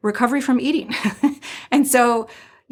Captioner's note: laughing